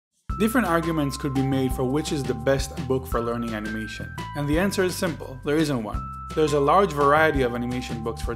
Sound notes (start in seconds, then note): 0.5 voiceover